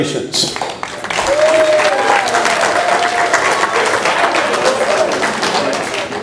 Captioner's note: audience applause